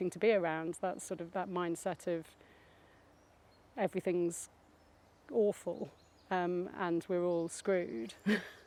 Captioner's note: laughs